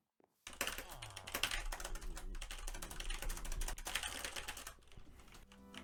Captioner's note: angry typing